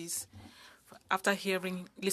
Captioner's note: speaking French